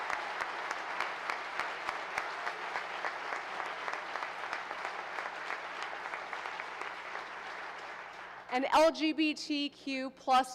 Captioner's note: applause